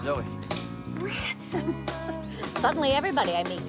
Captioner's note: laughs